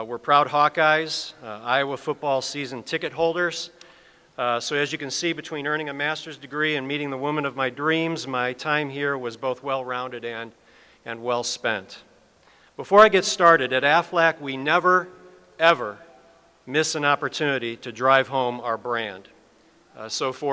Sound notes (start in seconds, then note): none